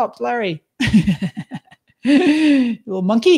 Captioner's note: laughs